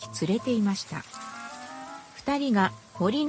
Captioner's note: sound of wind and fallen leaves